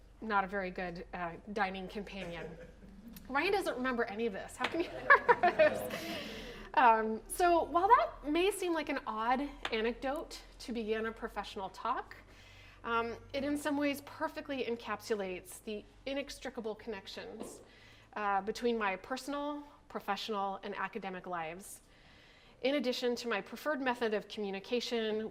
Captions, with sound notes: not a very good dining companion. Ryan doesn't remember any of this how can he? (laughs) So while that may seem like an odd anecdote to begin a professional talk it in some ways perfectly encapsulates the inextricable connections between my personal, professional, and academic lives. In addition to my preferred method of communication